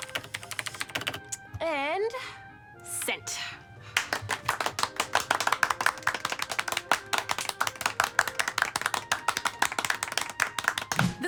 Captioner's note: applause